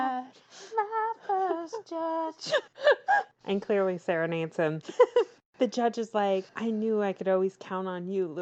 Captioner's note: laughs